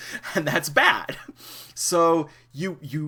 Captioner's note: chuckles